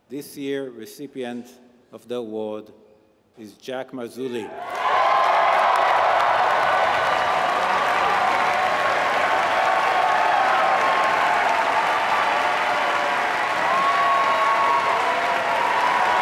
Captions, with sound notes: This year recipient of the award is Jack Marzuli. >> [APPLAUSE]